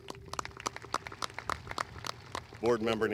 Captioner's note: audience applauding